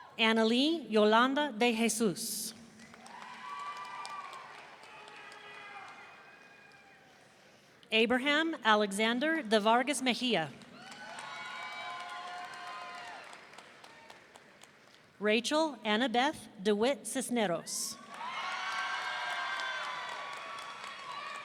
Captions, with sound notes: Annalee Yolanda Dejesus. (audience cheering) Abraham Alexander Devargas-Mejia. (audience cheering) Rachael Annabeth Dewitt-Cisneros. (audience cheering)